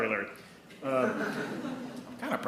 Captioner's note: attendees laughing